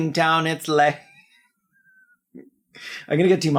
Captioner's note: laughing but not in a “well” way